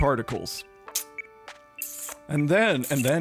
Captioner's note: makes sucking noises